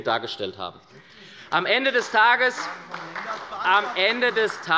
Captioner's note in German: Beifall bei der SPD